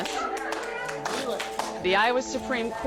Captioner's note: audience cheering and clapping